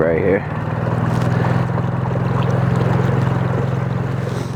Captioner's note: motor running